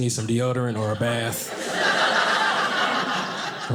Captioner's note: audience laughing